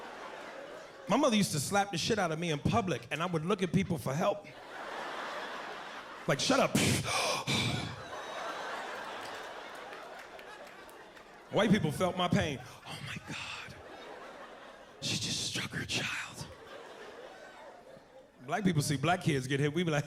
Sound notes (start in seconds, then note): 6.8 gasps